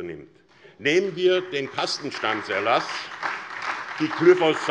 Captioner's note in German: Beifall SPD und Freie Demokraten